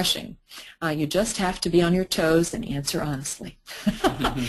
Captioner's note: laughter